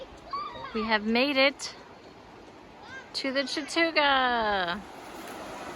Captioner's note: water flowing